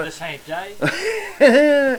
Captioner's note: laugh